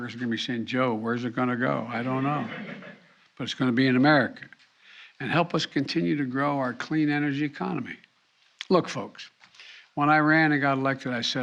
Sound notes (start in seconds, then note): 2.0 laughter